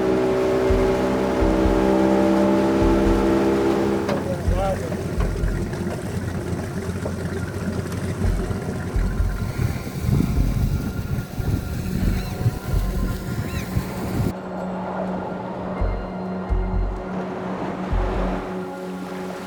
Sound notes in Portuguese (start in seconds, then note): 0.2 som de motor do barco; 4.0 som de água do mar; 9.4 som de vento batendo na sacola de lixo